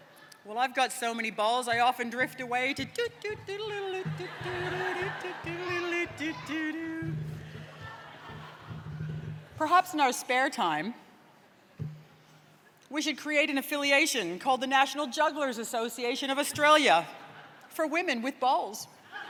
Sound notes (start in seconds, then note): 2.9 hums carnival music; 7.2 laughter; 19.1 laughter and applause